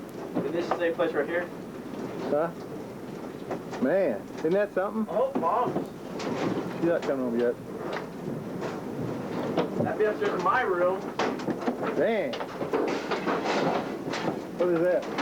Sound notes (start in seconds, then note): 12.4 crashing